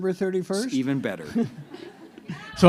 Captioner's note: laughter